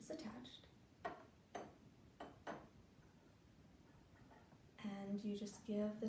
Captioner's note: sound of metal tahkli on ceramic cup